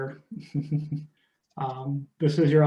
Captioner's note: chuckles